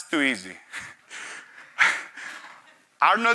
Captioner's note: chuckles